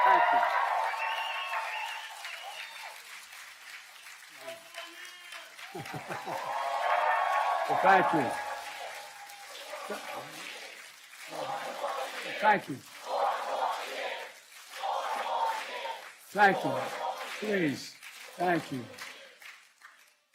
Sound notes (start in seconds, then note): 0.0 applause; 4.0 applause; 9.2 applause; 16.9 cheering